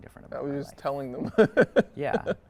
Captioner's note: chuckles